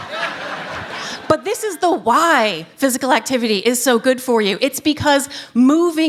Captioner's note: laughter